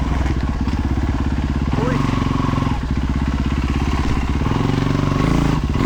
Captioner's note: engine revving